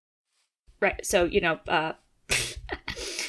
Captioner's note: laughs